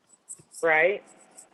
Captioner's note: phone